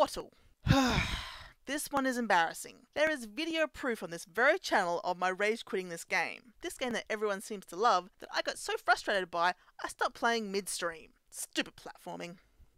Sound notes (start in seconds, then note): 0.6 sigh